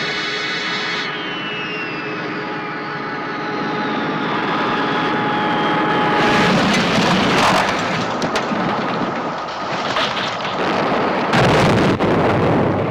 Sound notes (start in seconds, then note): 6.2 crashing; 11.5 booming